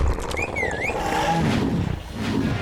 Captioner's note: zombie spartacus roaring; bucky whistles